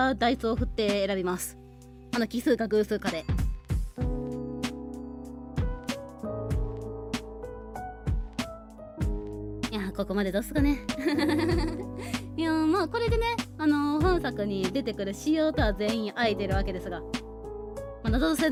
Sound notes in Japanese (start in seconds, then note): 11.1 笑い